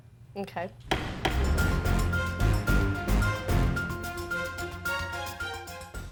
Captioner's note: gavel bangs; dramatic music